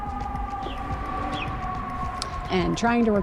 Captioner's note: sirens in the distance